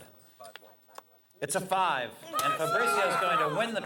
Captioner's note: crowd cheering